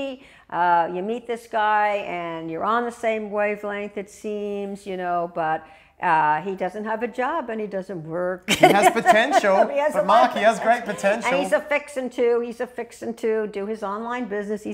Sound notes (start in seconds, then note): 8.5 sound of laughter